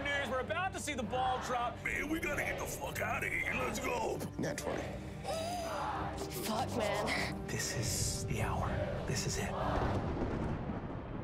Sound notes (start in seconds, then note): 0.2 crowd; 3.6 crowd; 5.0 gasps; 5.7 crowd; 9.5 crowd; 11.0 thunder crackles